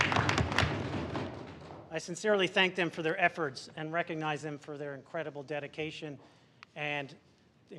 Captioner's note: applause